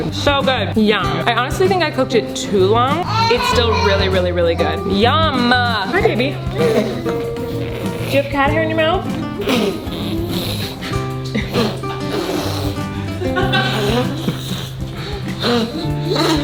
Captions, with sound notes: So good, yum! I honestly think I cooked it took long. It's still really, really, really good. Yum! Hi, baby. (baby noises) Do you have a cat hair in your mouth? (spitting) (laughing)